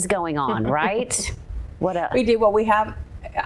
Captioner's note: chuckles